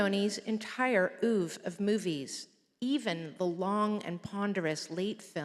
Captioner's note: none